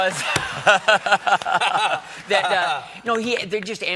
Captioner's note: laughter